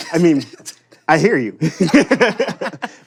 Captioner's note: both laughing